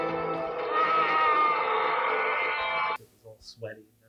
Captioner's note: screaming